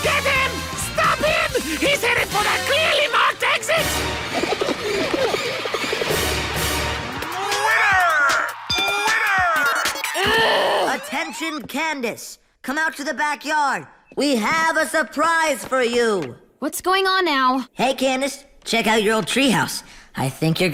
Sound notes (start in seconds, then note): 5.2 pigeons cooing